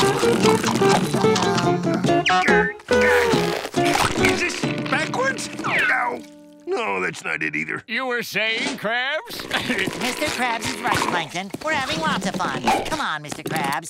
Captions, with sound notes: Yum. [grunting] Is this backwards? Oh! No, that's not it either. You were saying, Krabs? Mr. Krabs is right, Plankton. We're having lots of fun. Come on, Mr. Krabs.